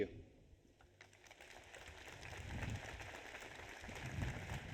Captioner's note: audience applauds